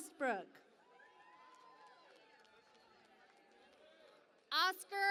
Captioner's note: cheering and Applause